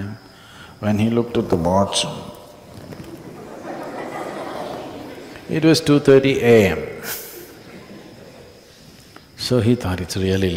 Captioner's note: laughter